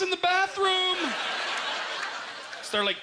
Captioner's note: audience laughter